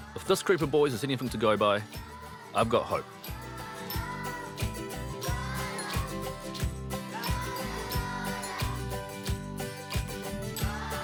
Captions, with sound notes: If this group of boys is anything to go by, I've got hope. (KIDS HUM UPBEAT TUNE)